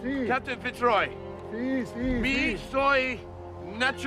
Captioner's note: speaking spanish; speaking spanish